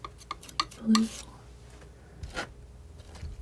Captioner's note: scratching